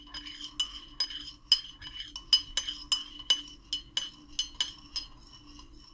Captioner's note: stirring sounds